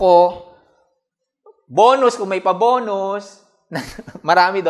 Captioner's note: chuckles